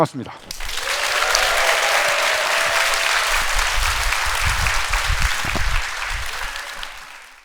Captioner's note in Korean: 박수